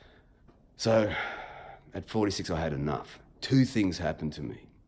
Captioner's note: sighs